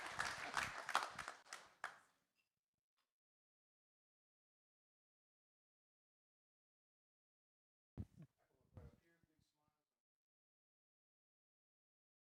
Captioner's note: applause